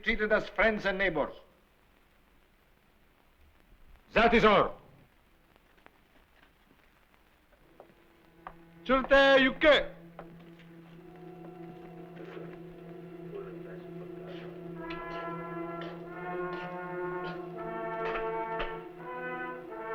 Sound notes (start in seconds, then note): 7.9 suspenseful music; 9.3 non-english speech; 14.0 footsteps approaching